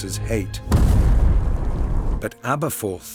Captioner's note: distant explosion